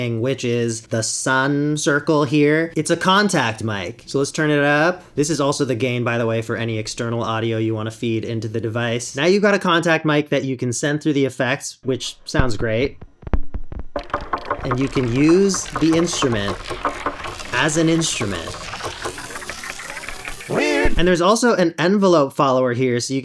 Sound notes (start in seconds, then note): 13.9 knocking and plinking sounds; 18.5 weird, morphed knocking